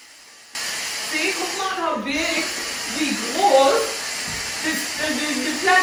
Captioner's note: speaking in foreign language